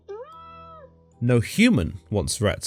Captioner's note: Zeus Meows